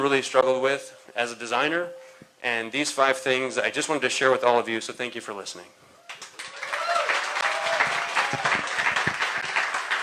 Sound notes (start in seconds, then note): 6.0 applause